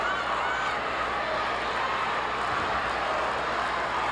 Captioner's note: audience chattering